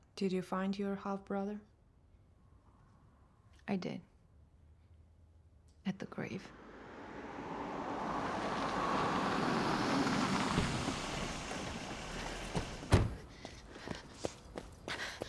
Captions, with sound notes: - Did you find your half-brother? - I did. At the grave. (engine rumbling)